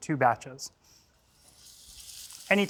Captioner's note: sizzles